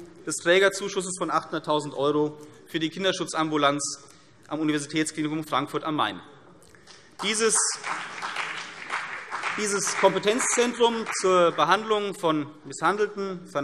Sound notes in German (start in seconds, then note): 7.1 Beifall CDU und BÜNDNIS 90/DIE GRÜNEN